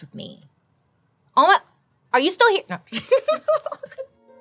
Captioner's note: laughs